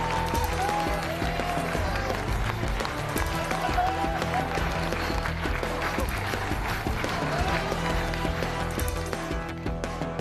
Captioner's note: cheers and applause